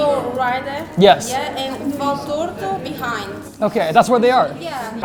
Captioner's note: speaks in Portuguese